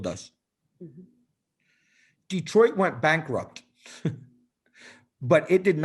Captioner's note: laughter